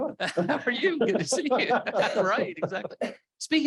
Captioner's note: laughs